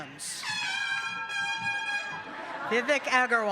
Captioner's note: horn blowing